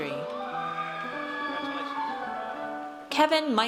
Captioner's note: audience cheers